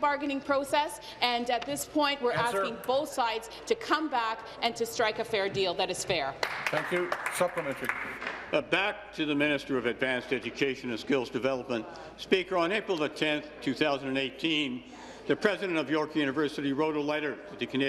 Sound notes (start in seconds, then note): 8.9 applause